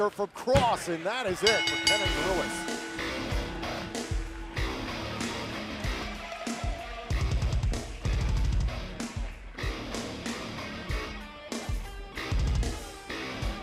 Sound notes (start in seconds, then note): 1.4 bell dinging